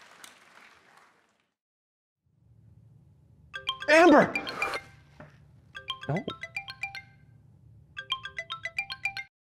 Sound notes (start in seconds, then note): 3.5 phone ringing